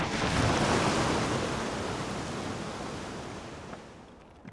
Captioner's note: rushing water